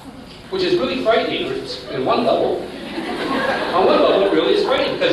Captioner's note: laughter